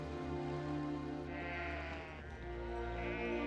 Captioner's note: sheep baaing